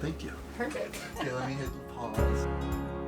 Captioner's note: laughs